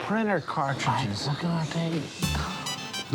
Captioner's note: sighs